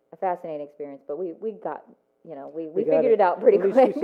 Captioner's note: laughs